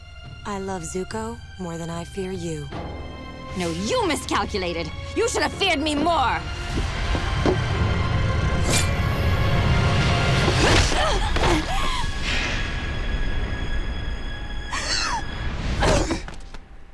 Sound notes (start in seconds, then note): 14.5 gasps